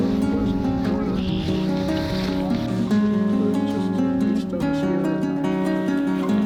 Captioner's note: gentle pleasant music; people chatter indistinctly